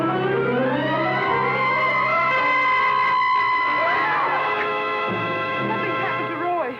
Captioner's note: screeching